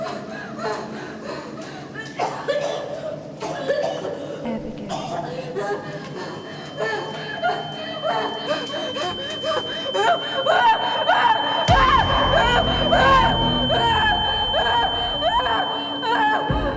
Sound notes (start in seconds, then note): 2.2 Abby pants and coughs; 6.4 high pitched tone; 8.2 Abby pants and shouts; 13.7 dramatic music